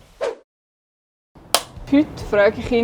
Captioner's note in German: Klappe schlägt zu